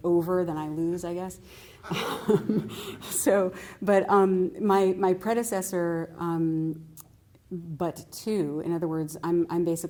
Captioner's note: laughter